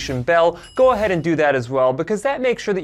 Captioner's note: bell chime